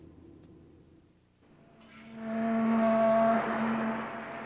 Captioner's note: foghorn sounds